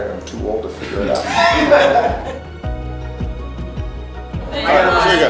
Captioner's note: crowd laughs